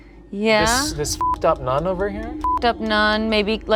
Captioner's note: beep